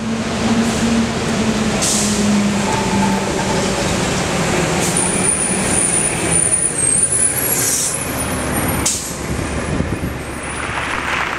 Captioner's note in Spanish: sonido de autobús; aplausos